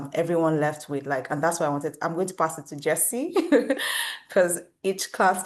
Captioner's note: laughs